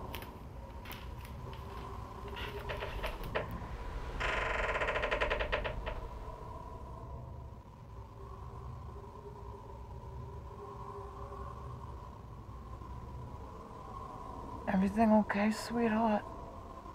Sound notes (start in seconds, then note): 3.0 door creaks; 6.4 wind whistling